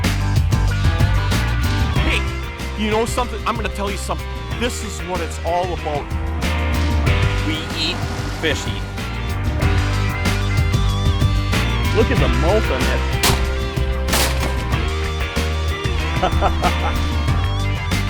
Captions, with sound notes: Hey, you know something? I'm gonna tell you something. This is what it's all about. We eat. Fish eat. Look at the mouth on that. (gunshots) (chuckles)